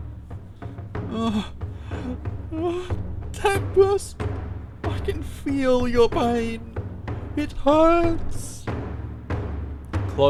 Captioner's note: pained groans